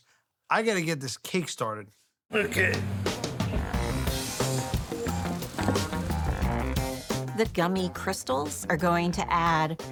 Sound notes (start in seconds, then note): 2.4 lively music; 5.3 cake lightly thudding